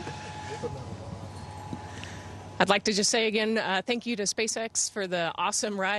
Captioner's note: laughter